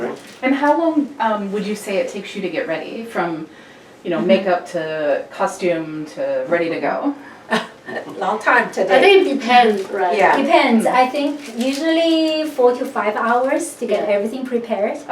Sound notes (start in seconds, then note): 7.5 laughs